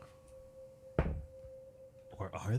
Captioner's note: thud